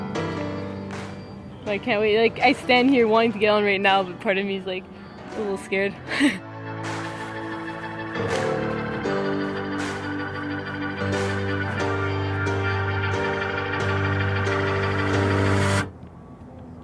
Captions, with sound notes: I can't wait. Like I stand here wanting to get on right now, but part of me is like a little scared. (laughs)